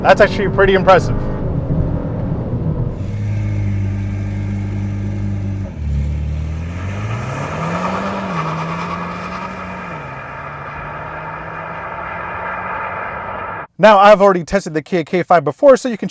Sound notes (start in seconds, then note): 3.1 engine roaring